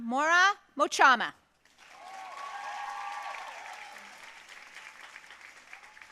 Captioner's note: audience cheering and applauding